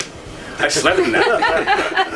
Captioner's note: laughter